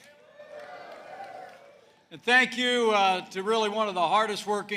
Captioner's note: applause